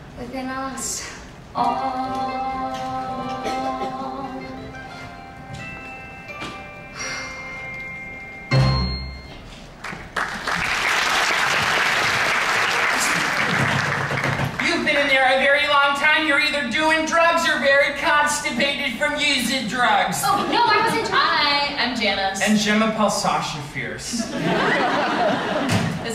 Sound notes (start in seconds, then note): 9.8 audience applauds; 13.7 knocks